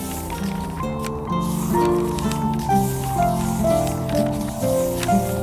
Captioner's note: sound of pages turning